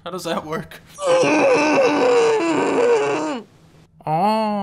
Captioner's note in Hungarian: hangos mordulás